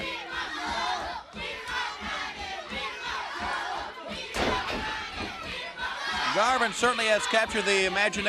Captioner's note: crowd cheering